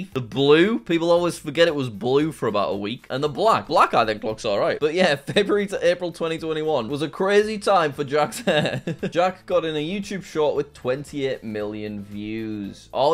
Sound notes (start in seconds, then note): 8.4 laughs